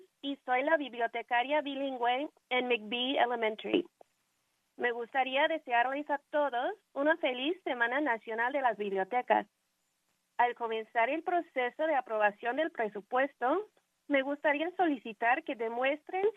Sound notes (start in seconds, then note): 3.0 speaking in spanish